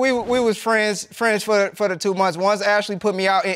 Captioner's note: stammers